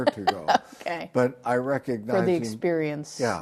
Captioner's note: laughs